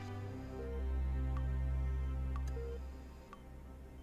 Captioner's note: monitor beeps